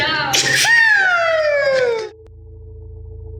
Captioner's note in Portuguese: imita foguete